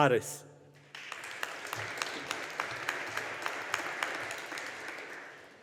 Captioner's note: audience applauding